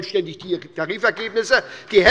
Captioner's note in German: Beifall bei der SPD